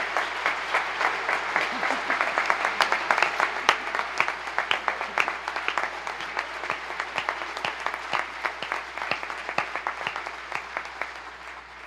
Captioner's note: applause